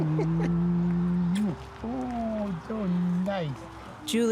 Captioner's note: kisses